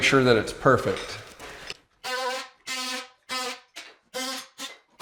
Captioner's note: screwdriver revving